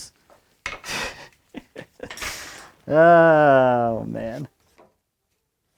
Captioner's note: laughs